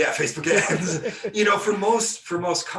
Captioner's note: laughing